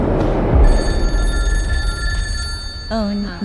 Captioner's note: bell rings